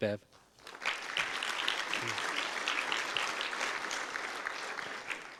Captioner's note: audience applause